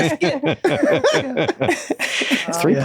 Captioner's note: all laugh